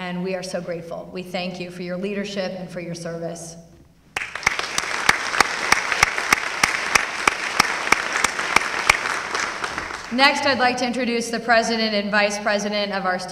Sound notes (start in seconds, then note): 4.1 applause